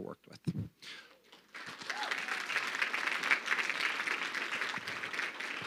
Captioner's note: crowd clapping